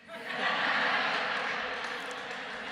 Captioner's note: laughter